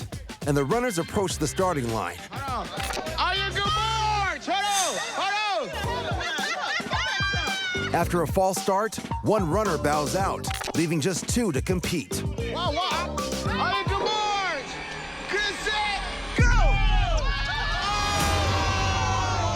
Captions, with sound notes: and the runners approach the starting line. -On your marks... Hold on! Hold on! [ Laughter ] -After a false start, one runner bows out, leaving just two to compete. -On your marks... get set...go! Oh!